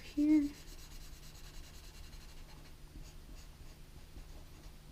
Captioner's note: pen scratching